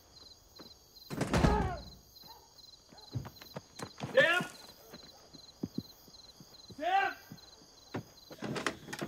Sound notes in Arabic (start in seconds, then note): 1.2 سام يصرخ